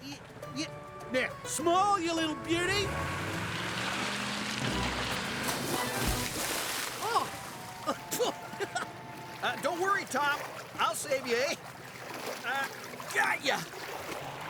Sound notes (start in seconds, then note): 2.2 engine Revving; 5.5 splash; 7.8 chuckles